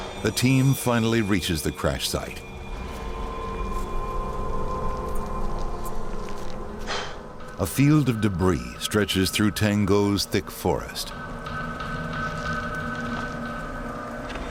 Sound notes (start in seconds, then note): 0.0 humming; 2.2 humming; 3.0 sighs; 11.6 sinister music